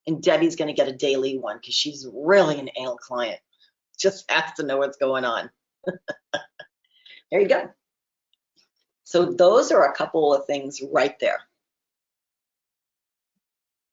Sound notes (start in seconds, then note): 5.8 laughs